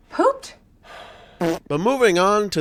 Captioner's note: fart sound